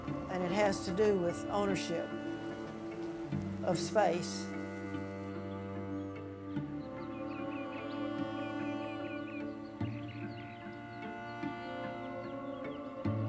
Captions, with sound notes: And it has to do with ownership of space. (birds singing) (slow Western music)